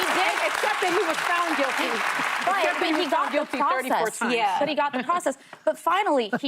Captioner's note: applause